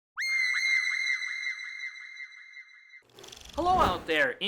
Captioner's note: high-pitched scream